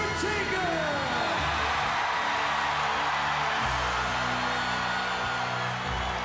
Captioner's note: applause